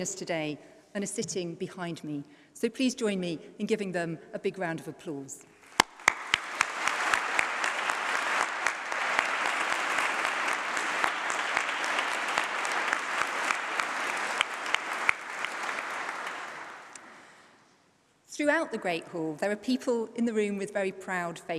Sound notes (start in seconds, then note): 6.0 applause